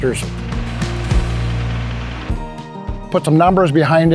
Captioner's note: engine rumbling